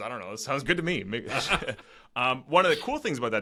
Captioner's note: both laughing